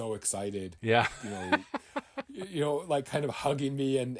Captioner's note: laughing